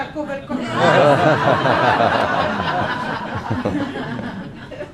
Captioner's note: laughing